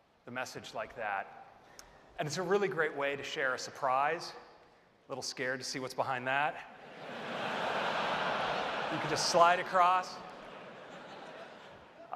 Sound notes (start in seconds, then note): 6.8 laughter